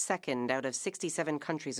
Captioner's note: speaking French